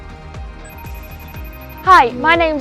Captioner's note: phone rings